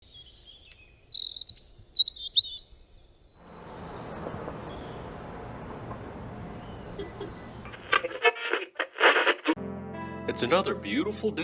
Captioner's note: radio static